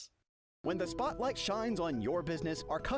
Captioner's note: voiceover